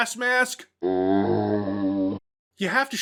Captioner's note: zombie sound